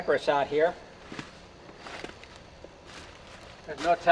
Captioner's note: leaves crunching underfoot